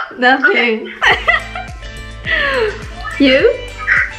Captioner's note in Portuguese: risadas